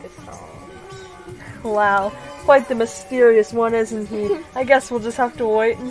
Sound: quaint giggle

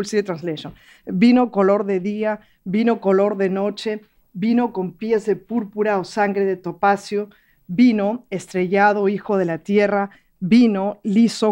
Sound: speaking in Spanish

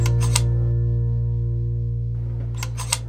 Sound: clicking

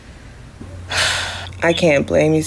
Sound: Ja'Nelle sighs

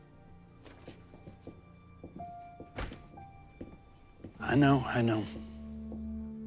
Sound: steps departing; door opens

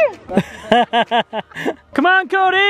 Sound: laughs

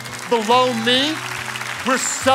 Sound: congregation clapping

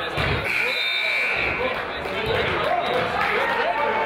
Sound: whistle blows; buzzer honks; crowd applauds; crowd chatters

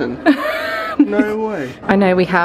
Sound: laughs

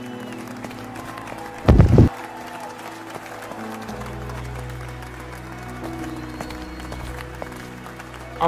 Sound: applause

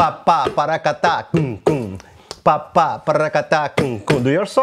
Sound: vocalizes rhythm

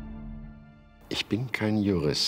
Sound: speaking German

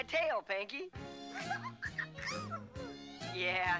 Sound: cooing

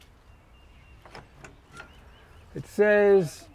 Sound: car door clicks open

